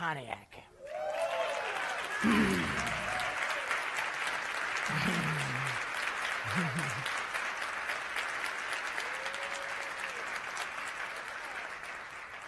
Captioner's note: applause